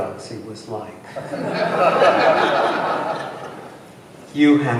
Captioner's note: laughter